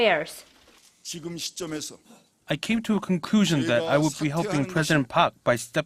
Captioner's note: Korean